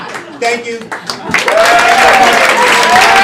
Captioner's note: applause